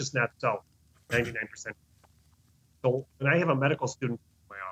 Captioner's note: doctor speaking faintly